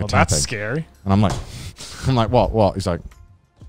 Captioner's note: startles